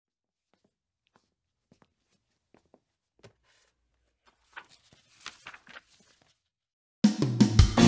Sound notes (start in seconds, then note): 0.0 footsteps; 3.2 pages Turning; 7.0 drums